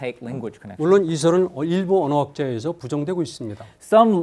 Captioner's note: speaking in Korean